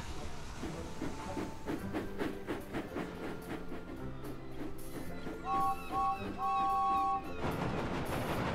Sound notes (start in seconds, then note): 5.4 james whistles